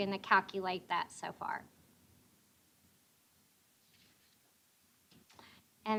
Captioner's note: none